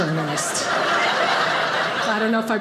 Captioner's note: audience laughing